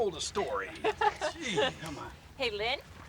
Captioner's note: laughing